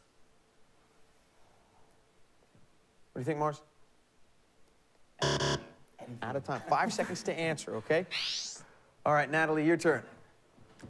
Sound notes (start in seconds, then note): 5.2 buzzer